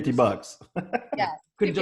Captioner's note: laughs